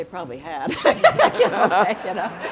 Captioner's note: laughter